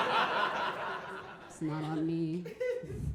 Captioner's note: audience laughing